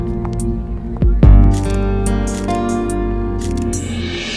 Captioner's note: Camera clicking